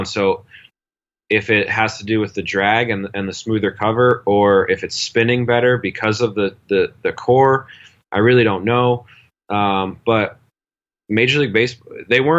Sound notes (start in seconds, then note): none